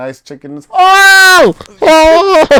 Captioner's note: screams